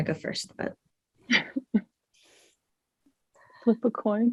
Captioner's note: chuckles